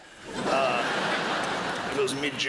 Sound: crowd laughs

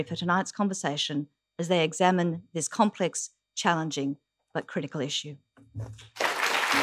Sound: applause

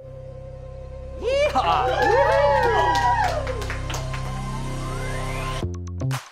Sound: crowd cheering; hip hop music

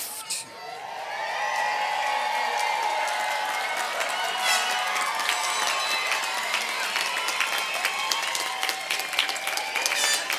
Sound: applause and cheering

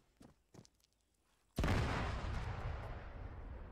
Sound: tank continues to explode

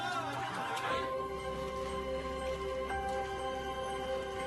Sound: crowd chattering

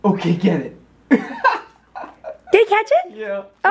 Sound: laughs

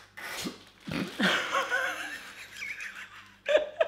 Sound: laughing

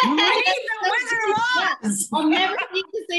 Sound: laughing

